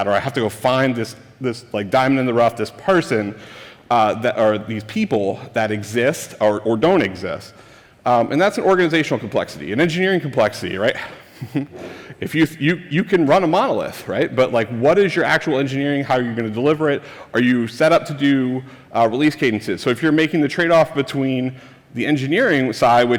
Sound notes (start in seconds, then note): 11.0 chuckles